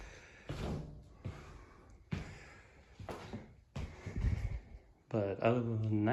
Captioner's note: footsteps